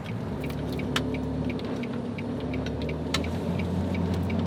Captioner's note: blinker clicking